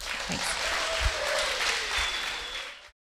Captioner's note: applause